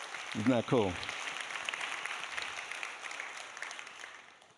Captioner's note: audience applauding